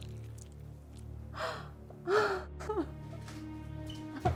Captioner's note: Julie gasps